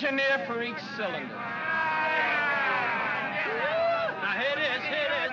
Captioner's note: men clamor